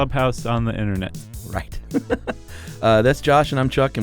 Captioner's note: laughs